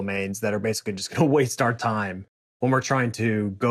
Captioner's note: chuckles